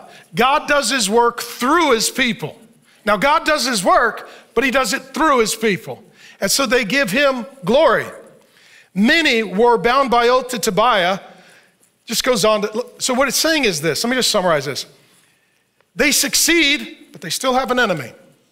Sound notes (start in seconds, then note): none